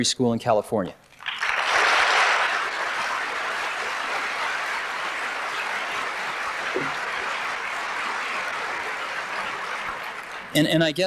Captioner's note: applause